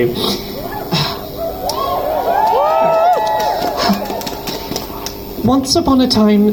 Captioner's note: crowd cheers